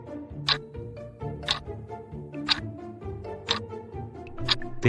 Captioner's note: FX - Clock Tick